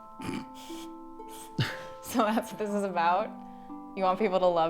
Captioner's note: chuckling